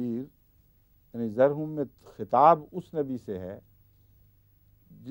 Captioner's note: Arabic